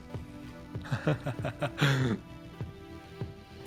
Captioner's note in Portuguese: Risadas